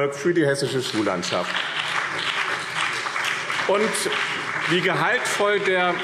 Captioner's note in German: Beifall BÜNDNIS 90/DIE GRÜNEN und CDU